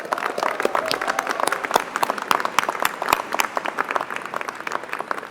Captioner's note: applause